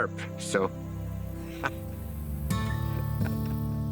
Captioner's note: soft insects chirping; guitar music